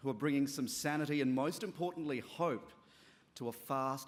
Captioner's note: none